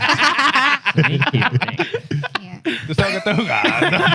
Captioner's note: laughter; speaking Spanish; laughter; speaking Spanish